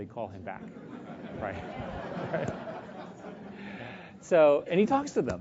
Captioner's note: laugh